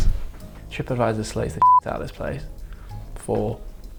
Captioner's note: beep